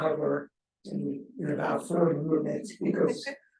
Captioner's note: chuckles